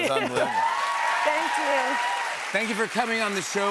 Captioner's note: cheers and applause